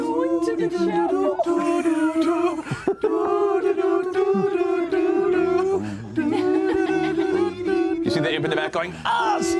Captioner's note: humming